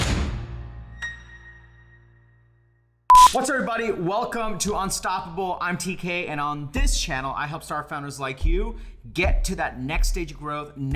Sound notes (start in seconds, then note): 3.1 beep